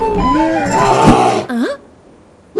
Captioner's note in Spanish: Gruñido de oso que interrumpe el retraso